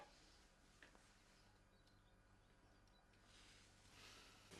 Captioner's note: birds chirping